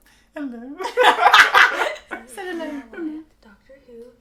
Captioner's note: both laugh loudly